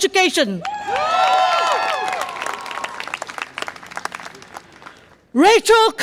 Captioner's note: audience applause and cheer